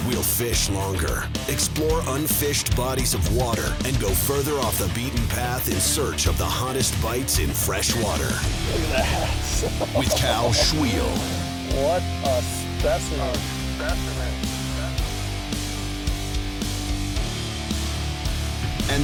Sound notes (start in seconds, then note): 8.9 voiceover; 14.9 energetic rock music